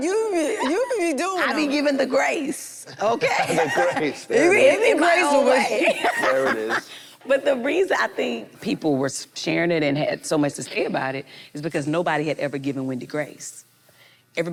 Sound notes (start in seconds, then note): 3.0 laughs